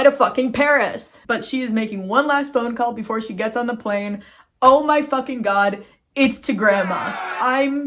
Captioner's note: crowd booing